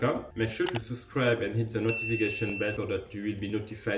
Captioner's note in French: clics de souris; sonnerie